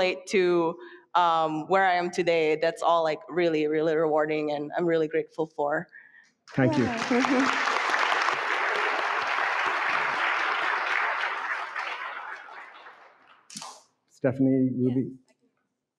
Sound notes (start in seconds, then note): 6.5 audience clapping